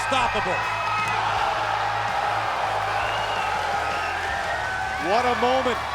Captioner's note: crowd cheering